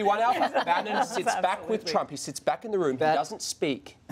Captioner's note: laughter